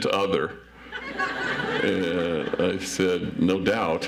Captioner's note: audience laughs